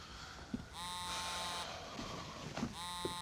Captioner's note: Kenan breathes